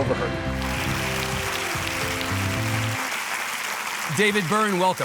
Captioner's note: audience applauding